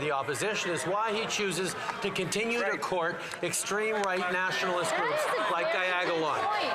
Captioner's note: some Applause